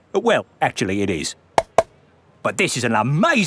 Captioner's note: taps